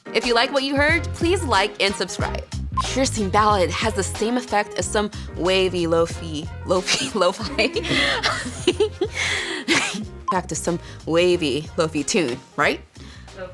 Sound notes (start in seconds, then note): 6.9 laughs